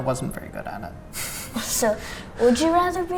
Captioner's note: laughs